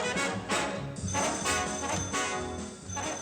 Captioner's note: phone rings